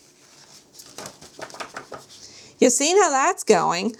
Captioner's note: shaking paper